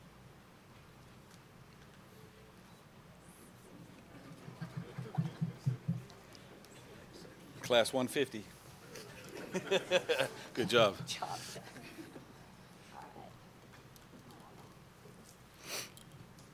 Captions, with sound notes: Class 150. [Laughter] Good job.